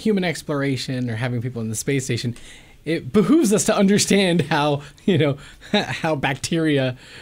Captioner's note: laughs